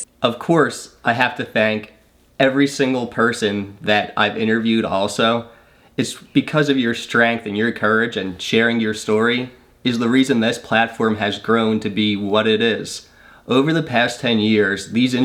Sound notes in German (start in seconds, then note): none